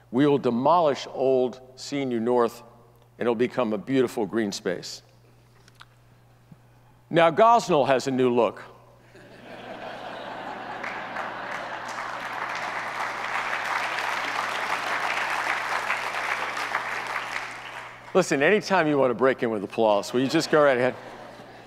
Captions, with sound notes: we will demolish old CNU North and it'll become a beautiful green space. Now Gosnold has a new look. (audience laughs) (audience applauds) Listen, anytime you want to break in with applause, will you just go right ahead?